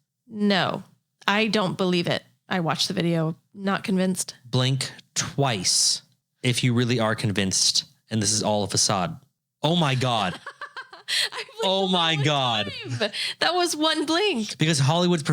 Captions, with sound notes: - No, I don't believe it. I watched the video. Not convinced. - Blink twice if you really are convinced. And this is all a facade. Oh my God. (laughing) Oh my God. - That was one blink. - Because Hollywood's